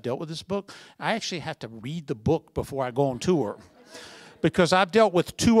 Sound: laughter

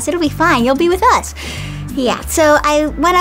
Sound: exhales sharply

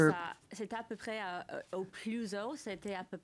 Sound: speaking French

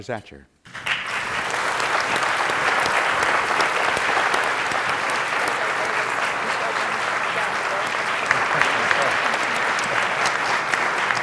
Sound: applause

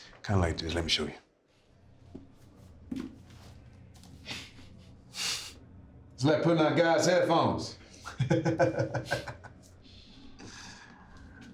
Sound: laughing

